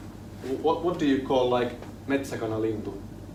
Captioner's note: foreign language